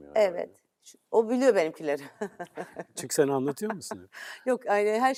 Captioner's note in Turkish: kahkaha